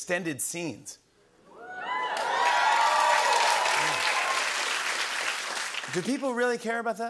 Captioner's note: cheers and applause